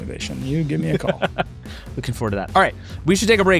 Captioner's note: laughing